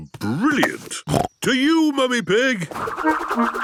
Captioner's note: snorting